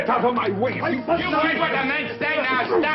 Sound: shouting

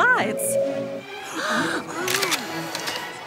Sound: gasping

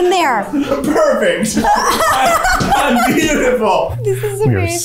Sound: all laughing

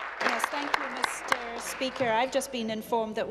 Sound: applause

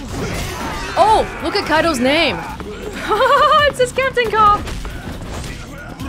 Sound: chuckles

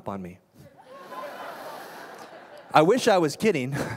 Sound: laughter

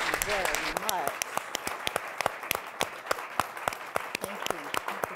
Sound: applause

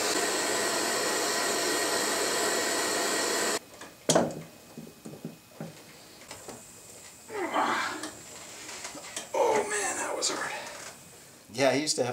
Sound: groans

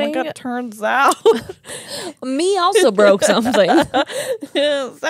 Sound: laughs

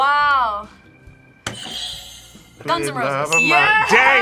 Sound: buzzer rings

